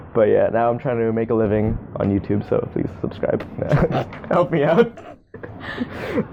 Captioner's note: laughs